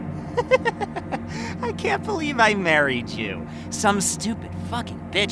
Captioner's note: chuckling